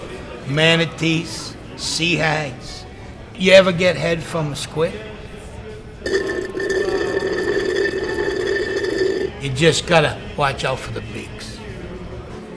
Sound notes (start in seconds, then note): 6.0 slurping